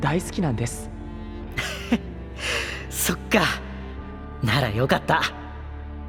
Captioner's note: happily